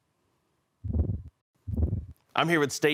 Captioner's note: whoosh